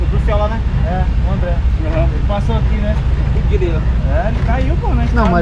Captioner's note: indistinct chatter